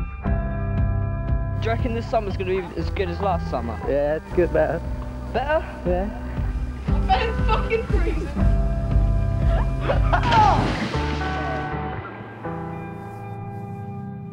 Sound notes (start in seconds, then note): 10.0 water splashing